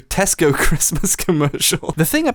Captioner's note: laughing